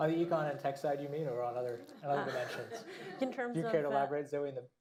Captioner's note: laughter